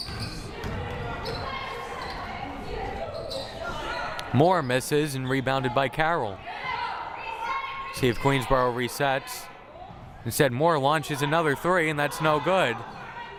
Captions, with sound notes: (crowd murmuring) Moore misses, and rebounded by Carroll. See if Queensborough resets. Instead, Moore launches another three, and that's no good.